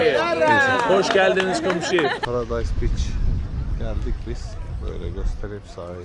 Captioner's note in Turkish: kahkaha